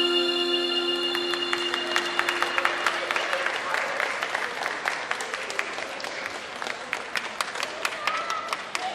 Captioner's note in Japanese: 拍手